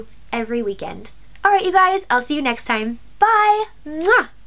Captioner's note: mwah